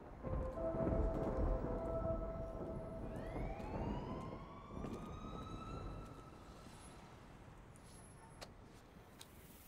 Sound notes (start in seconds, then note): 2.9 police siren wails in distance